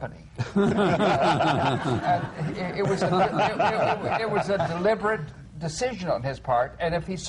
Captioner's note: laughter